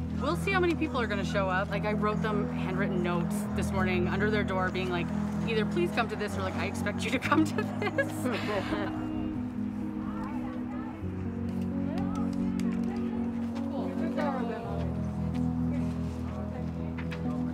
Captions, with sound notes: - We'll see how many people are gonna show up. Like, I wrote them handwritten notes this morning under their door being like, "either please come to this," or like, "I expect you to come to to this." (chuckles) (calming music continues) (Helpers chattering) (Helpers chattering)